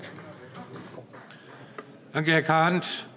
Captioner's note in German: Vereinzelter Beifall